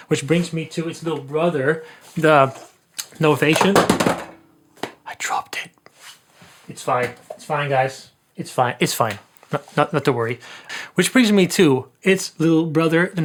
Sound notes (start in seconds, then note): 3.5 clattering noise